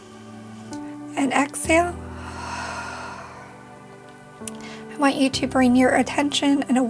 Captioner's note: exhales